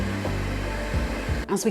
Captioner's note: cake mixer whirring